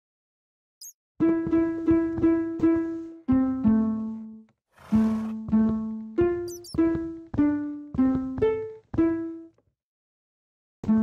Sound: Note Block sounds

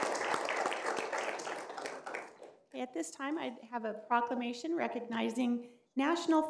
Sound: applause

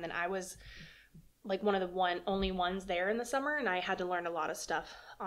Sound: none

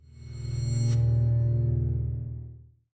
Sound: ringing tone

